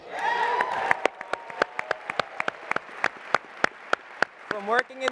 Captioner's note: applause and cheering